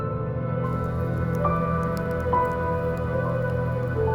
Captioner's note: fire crackling